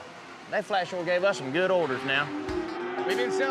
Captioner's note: cattle mooing